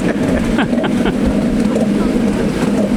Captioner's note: laughter